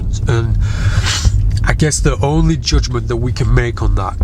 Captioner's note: sniffs